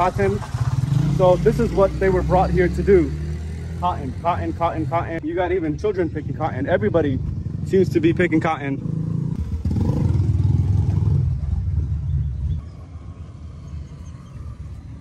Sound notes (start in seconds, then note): 8.8 car engine; 10.5 birds chirping; 12.8 car engine; 14.8 birds chirping